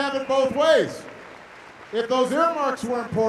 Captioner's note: applause